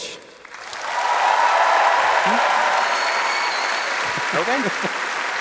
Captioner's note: applause